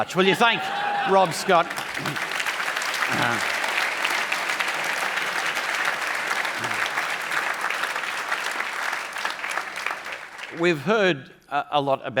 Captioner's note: applause